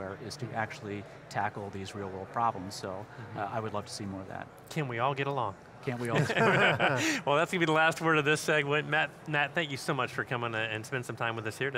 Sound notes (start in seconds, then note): 6.1 chuckling